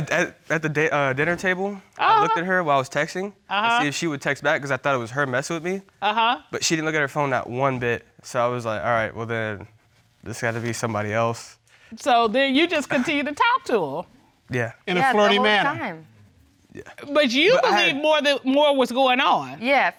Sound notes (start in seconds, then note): none